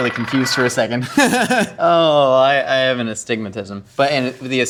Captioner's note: laughs